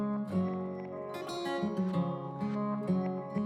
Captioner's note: none